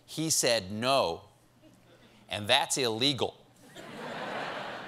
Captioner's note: laughter